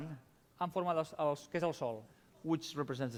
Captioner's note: non-english speech